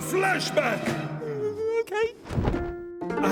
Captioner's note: whimpering